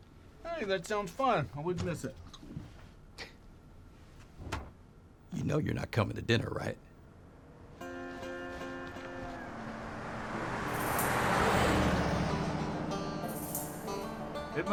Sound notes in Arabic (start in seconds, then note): 3.0 سخرية، الباب يُغلق; 10.5 موسيقى ريفية مبهجة